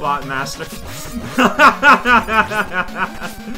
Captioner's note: laughs